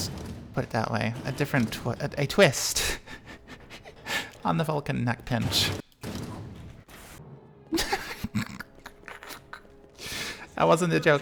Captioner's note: snickers